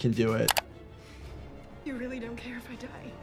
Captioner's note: tense music plays; video graphic clicks